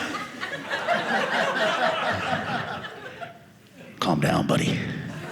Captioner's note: audience laughing